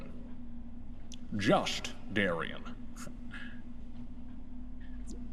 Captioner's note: bad Scottish accent